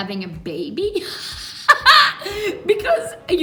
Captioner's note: laughs